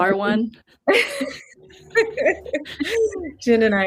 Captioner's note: laughing